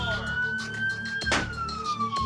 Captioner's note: striking door